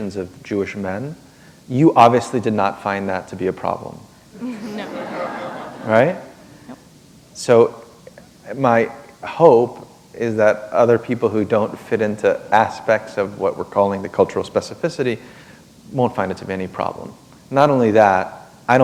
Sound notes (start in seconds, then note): 4.4 laughter